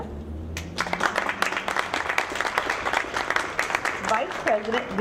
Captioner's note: audience clapping